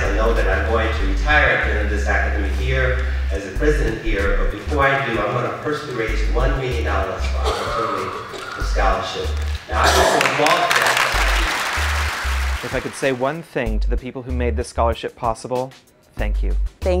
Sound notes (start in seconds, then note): 11.1 applause